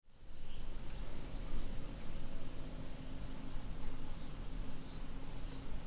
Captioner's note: nature sounds